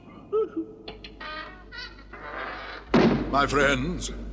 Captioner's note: sobs; door opens and shuts